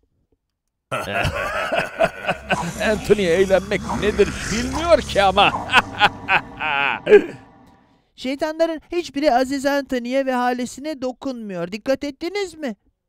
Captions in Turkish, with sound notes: Anthony eğlenmek nedir bilmiyor ki! Aaaa(kahkaha) Şeytanların hiç biri Aziz Anthony’e ve halesini dokunmuyor, dikkat ettiniz mi?